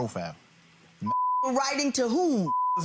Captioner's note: beeps